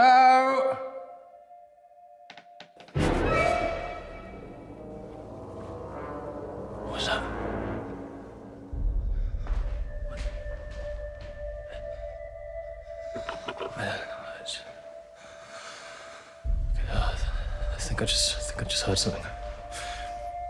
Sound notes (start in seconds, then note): 2.6 dramatic music; 2.6 wood creaking; 9.1 ominous music